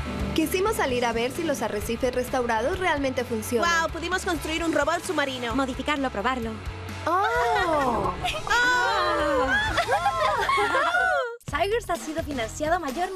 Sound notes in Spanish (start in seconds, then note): 7.0 todas aclamando